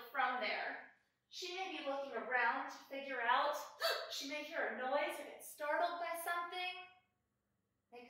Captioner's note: gasps